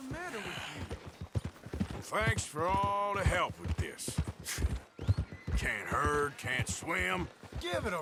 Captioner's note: sighs